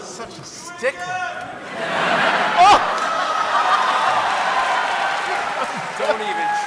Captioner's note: cheering